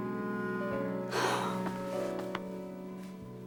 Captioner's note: exhales